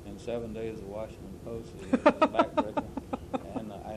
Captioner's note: laughter